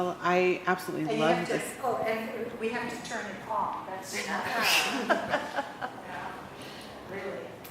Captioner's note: audience laughter